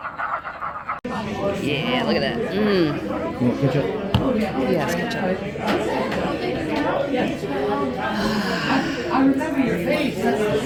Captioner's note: sigh of contentment